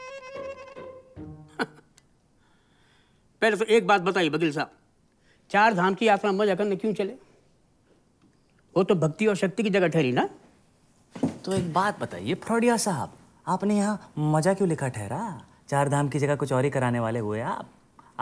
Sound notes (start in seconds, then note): 1.4 Chuckles